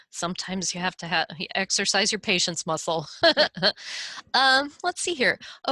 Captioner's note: laughing